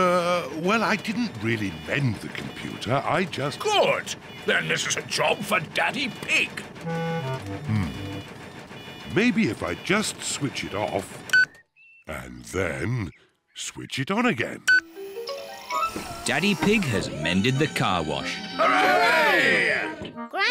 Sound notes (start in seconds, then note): 11.6 beeps; 14.6 beeps